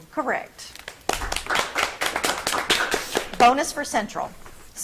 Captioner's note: audience clapping